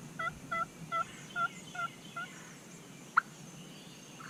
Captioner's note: turkey call